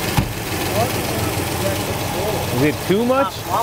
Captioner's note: background chatter